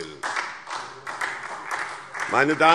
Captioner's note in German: Beifall SPD